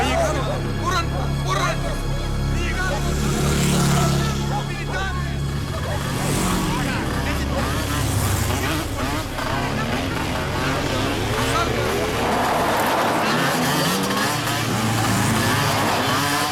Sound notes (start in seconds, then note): 0.2 people speaking in foreign language; 3.7 motorcycle engines revving